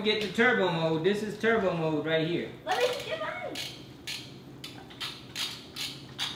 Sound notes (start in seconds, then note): 4.0 robot whirring